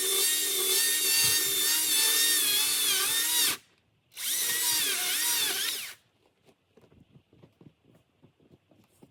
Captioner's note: sawing noises